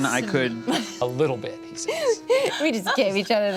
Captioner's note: giggles